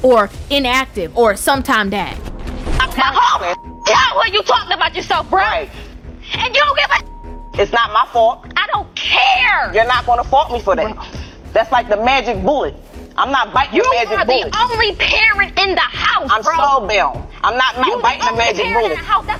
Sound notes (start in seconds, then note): 2.1 beep